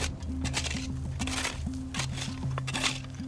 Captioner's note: shoveling continues